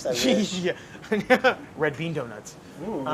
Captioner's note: laughing